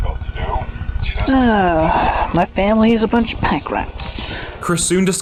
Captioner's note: sigh